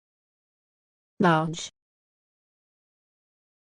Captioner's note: voiceover